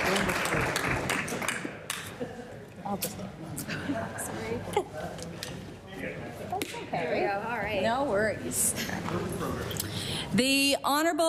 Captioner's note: applause